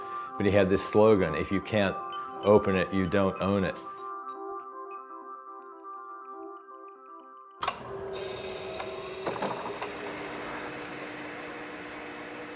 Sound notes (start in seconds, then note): 7.6 switch clicking; 9.3 machine rotating